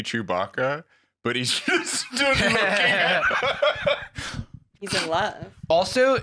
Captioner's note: laughs